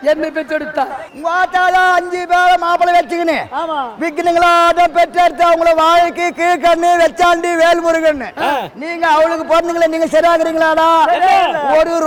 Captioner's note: Shiva taunting